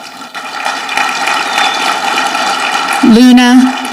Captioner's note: audience clapping